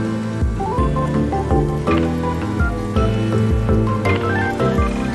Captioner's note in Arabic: ترجمة: فحيح... كأنها نهاية العالم